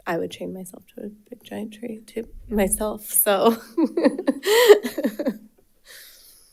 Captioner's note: laughs